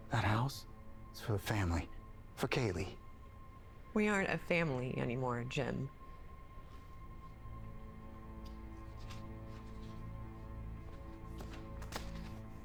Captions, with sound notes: That house is for the family, for Kaylee. - We aren't a family anymore, Jim. (papers rustling)